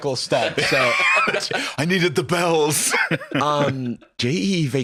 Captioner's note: laughs